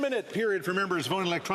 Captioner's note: speaking French